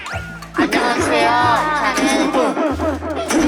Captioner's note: laughs with no resistance